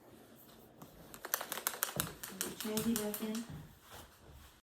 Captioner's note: shaking pen